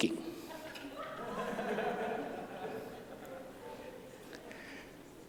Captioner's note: laughter